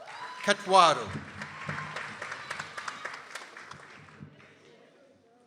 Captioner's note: people applauding